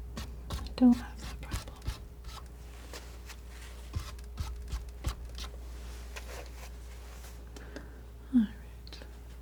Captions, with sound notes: I don't have the problem [scratching] Alright